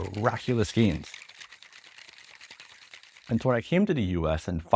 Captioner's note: shaker clacking